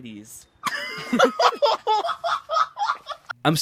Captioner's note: laughs